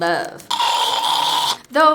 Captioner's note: gagging